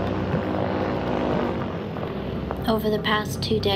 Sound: buzz overhead

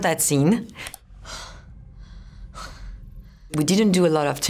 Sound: breathing heavily

